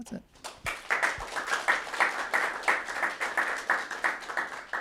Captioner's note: audience clapping